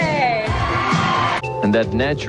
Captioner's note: crowd cheering